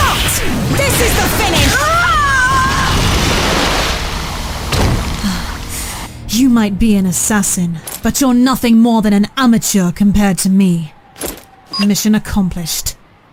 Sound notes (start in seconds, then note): 11.8 click